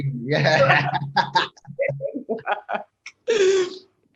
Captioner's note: both laugh